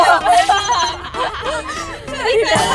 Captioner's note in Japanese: 笑いをこらえるのに失敗